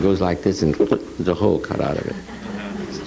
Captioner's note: mouth gulps